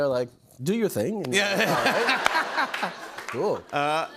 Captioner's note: laughter